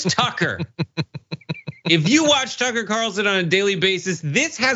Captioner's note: laugh